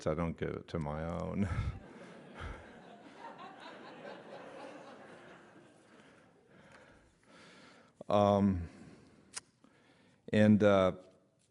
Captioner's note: laughter